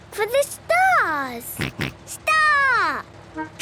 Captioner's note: snort